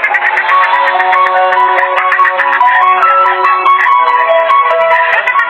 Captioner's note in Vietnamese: Vỗ tay